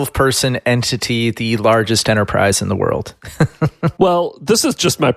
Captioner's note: laughs